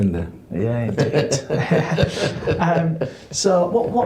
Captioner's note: laughing